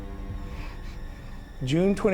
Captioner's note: sobs quietly